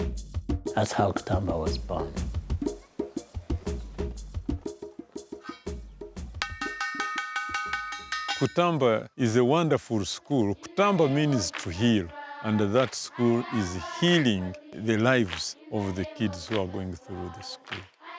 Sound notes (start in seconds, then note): 6.4 ringing bell